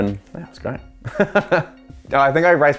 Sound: laughter

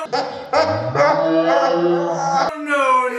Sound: evil slow motion laughing; laughing

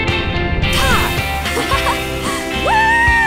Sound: Joss laughs

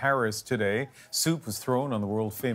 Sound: speaking French

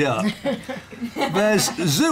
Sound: laughter

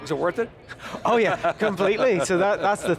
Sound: laughing

